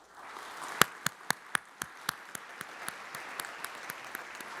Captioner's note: audience applauds